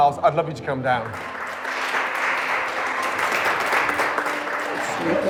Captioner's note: applause